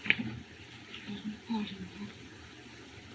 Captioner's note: muttering